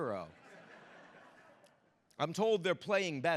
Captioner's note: audience laughing